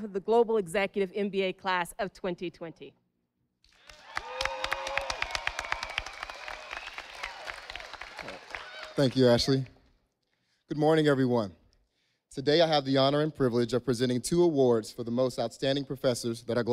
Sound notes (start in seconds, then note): 3.7 audience applauding